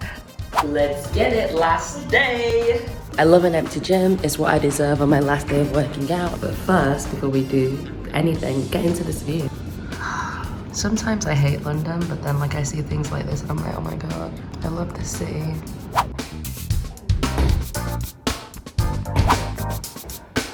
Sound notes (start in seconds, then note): 9.9 sighs; 15.5 upbeat music; 15.8 whoosh